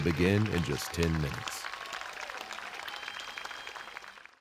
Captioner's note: audience applauding and cheering